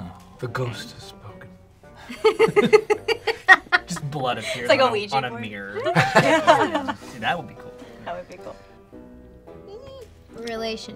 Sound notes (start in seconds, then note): 2.0 laughs